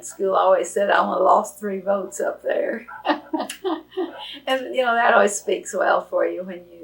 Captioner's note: laughs